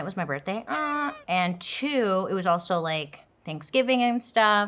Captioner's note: party horn honking